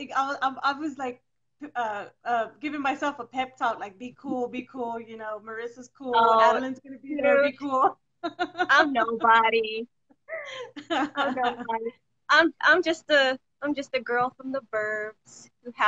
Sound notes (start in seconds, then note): 8.3 laughs